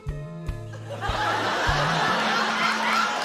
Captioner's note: laughter